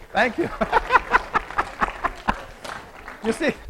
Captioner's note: laughing